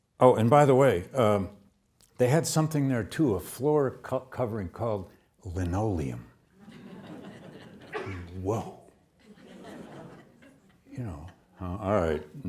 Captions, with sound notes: Oh, and by the way, they had something there too. A floor covering called linoleum. (audience laughs) Whoa. (audience laughs) You know. All right.